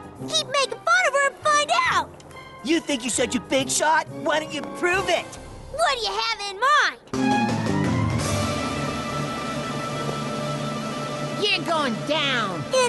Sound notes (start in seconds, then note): none